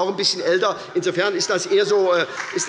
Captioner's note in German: Heiterkeit und Beifall bei der SPD